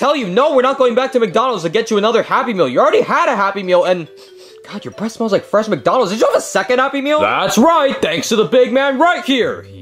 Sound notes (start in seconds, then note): 4.1 sniffs